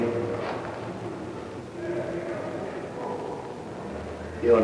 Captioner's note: indiscriminate chatter